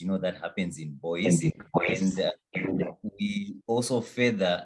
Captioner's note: echo sounding